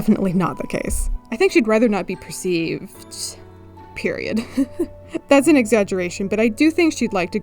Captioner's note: laughs